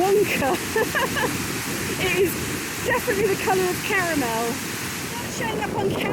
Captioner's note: laughing